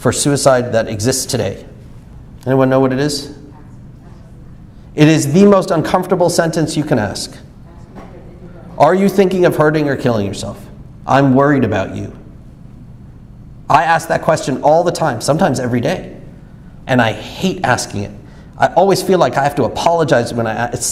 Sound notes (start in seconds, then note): 3.7 soft speaking off mic